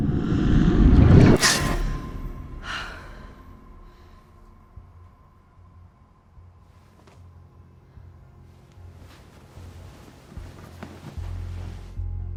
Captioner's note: ominous music; lady sighs